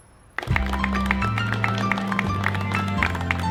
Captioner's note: applauding